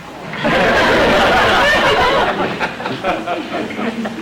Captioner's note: audience laughter